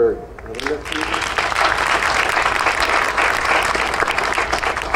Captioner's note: audience applauding